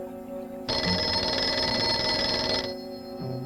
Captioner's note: phone ringing